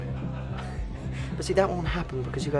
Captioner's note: chuckles